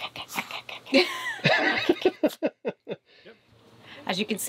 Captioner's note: laughs